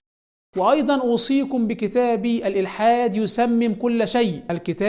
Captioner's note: Arabic